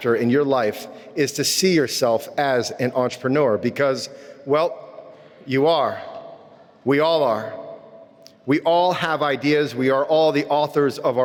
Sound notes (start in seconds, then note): none